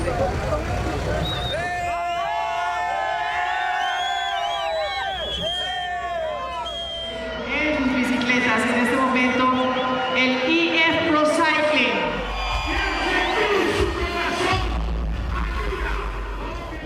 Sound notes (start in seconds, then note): 1.5 crowd cheering; 7.1 emcee speaking Spanish; 12.5 audience cheering